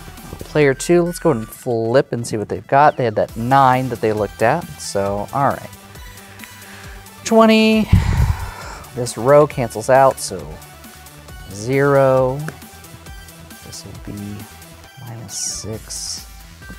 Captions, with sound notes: Player two, let's go ahead and flip and see what they've got. They had that 9 that they looked at. So, all right, 20. (sighs) This row cancels out, so zero. This'll be minus 6.